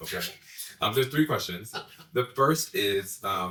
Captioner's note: laughs